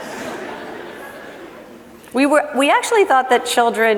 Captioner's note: laughing